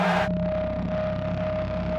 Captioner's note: announcer and crowd screaming